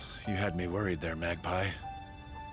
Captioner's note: relieved sigh